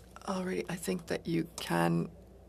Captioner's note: speaking French